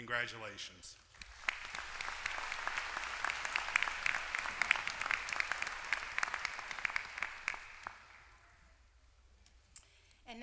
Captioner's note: applause